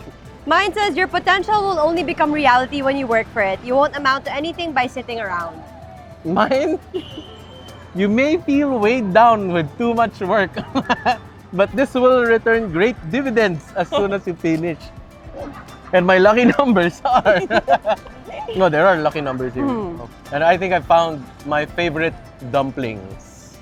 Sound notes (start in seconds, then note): 10.5 chuckles; 16.1 laughs